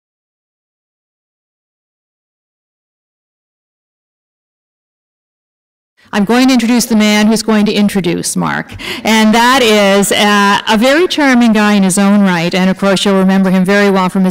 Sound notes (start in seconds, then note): none